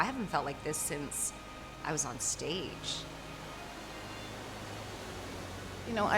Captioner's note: water rushing